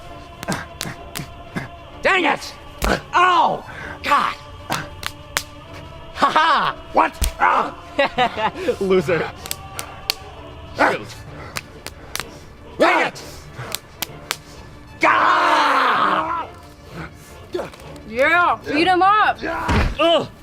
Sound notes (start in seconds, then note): 14.9 screaming and battling in the background; 18.2 eating popcorn